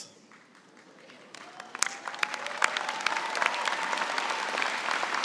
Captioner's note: cheering and applause